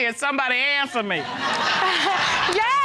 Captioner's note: audience laughing